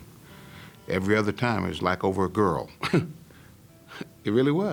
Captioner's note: laughing